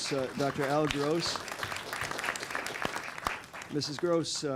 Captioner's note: applause